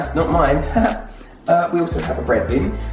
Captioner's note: laughs